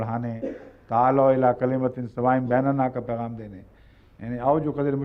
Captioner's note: Arabic